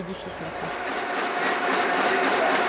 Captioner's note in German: Maschinenlärm